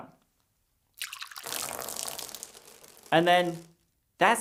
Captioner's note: water dripping